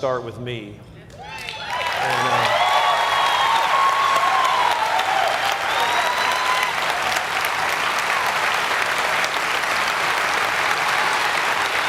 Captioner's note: cheers and applause